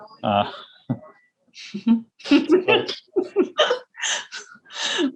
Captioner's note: both laughing